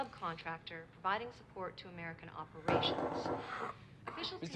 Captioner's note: knocking at door